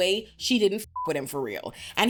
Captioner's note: beep